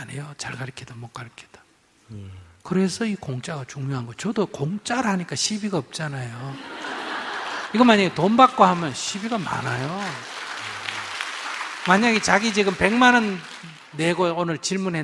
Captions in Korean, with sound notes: 잘 가르치든 못 가르치든... 그래서 이 '공짜'가 중요한 거예요. 저도 공짜로 하니까 시비가 없잖아요. (청중 웃음) 이거 만약에 돈 받고 하면 시비가 많아요. (청중 박수) 만약에 질문자가 오늘 백만 원 내고 질문했는데